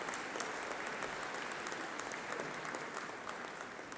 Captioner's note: applause